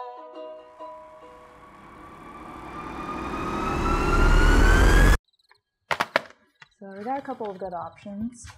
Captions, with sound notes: (eerie warbling) (crickets chirping) - So, we've got a couple of good options.